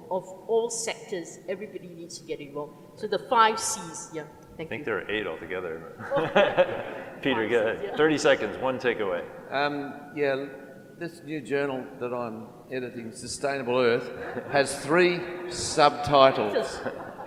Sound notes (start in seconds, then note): 6.0 laughs; 16.4 laughter